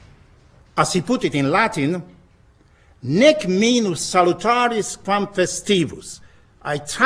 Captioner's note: speaking in latin